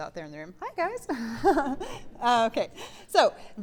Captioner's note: giggling